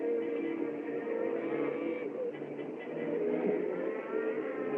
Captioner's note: cattle Lowing